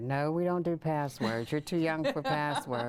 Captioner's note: laughing